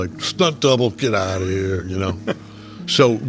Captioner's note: chuckling